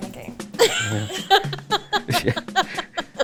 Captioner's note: laughs